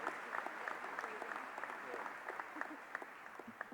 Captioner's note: applause